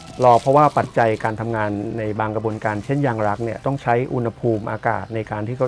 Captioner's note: speaking foreign language